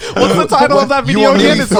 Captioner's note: all laughing